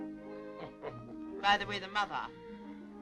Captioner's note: laughing